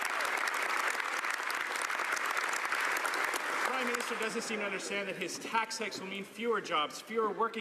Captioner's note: some Applause